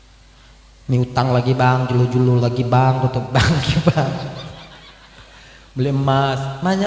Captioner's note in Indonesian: tertawa